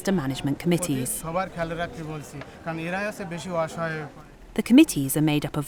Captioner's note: foreign language